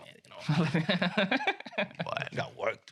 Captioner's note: laughter